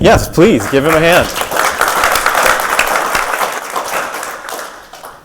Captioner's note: audience applauding